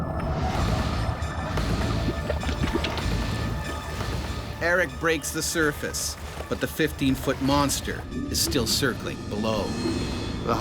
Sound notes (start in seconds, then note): 4.3 voiceover